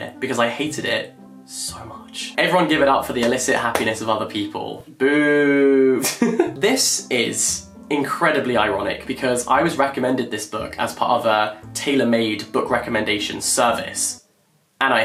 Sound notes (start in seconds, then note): 6.0 laughs